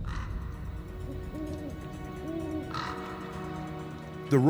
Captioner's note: owl hooting; crow cawing